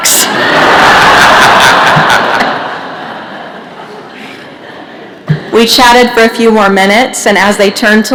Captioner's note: laughter